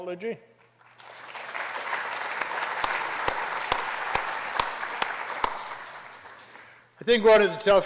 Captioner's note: applause